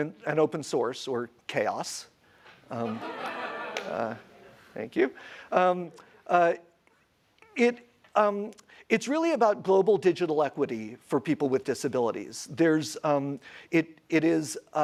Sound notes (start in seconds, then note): 2.8 audience laughs